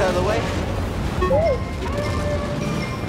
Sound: approving boop

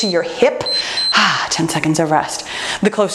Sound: timer beeps; sighs

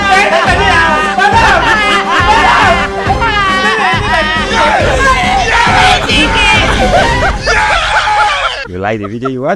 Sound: Mark and Emmanuella crying

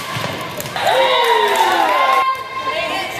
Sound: cheers

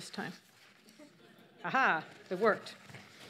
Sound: audience laughs

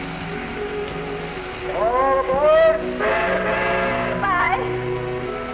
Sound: train whistle blows

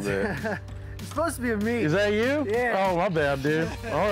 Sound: chuckles

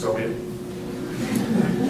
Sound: laughter

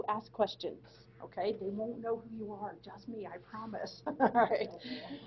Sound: laughing

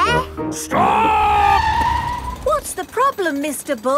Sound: tires screeching

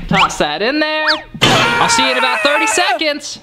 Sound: screaming

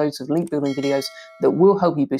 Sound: bell ringing

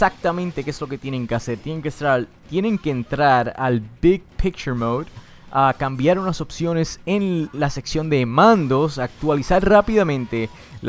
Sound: Spanish voice over

